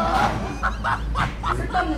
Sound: laughter

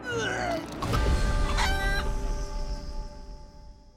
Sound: retching; clucking

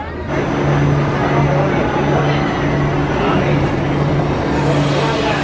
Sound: roller coaster whirring; roller coaster hissing

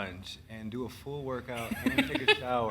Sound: laughing

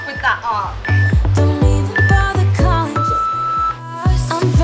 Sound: timer beeps

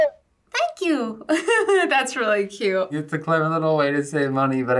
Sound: laughs

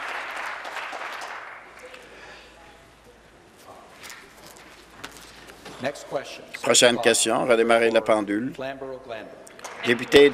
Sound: applause

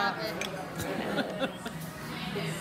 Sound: laughing

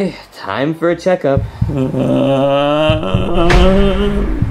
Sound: Junior whimpers

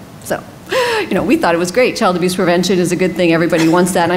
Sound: laughs

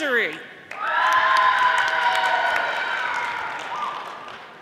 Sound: audience applauding

